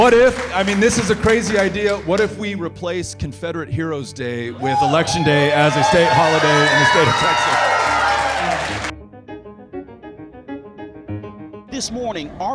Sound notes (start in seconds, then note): 8.2 audience cheering loudly; 9.6 upbeat music